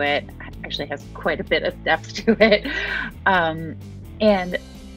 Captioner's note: chuckles